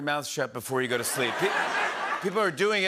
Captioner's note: laughter